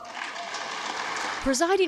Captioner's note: cheering